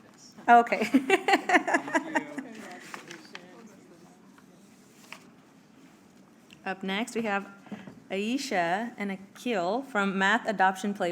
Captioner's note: laughs